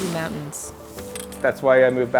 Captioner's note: skis through snow